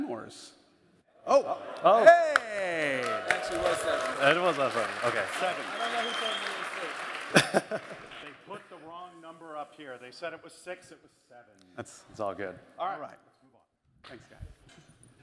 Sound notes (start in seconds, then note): 4.9 applause